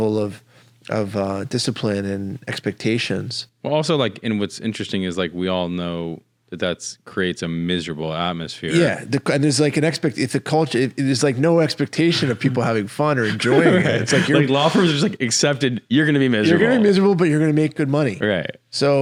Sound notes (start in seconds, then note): 13.1 laughs